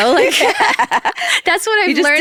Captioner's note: people laughing